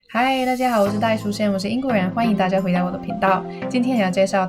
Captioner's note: speaking in foreign language